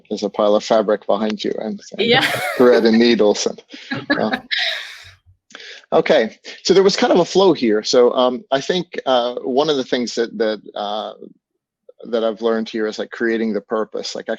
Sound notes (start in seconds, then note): 3.7 laughter